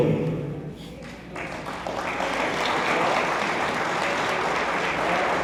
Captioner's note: attendees applauding